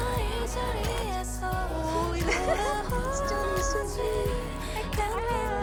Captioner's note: laugh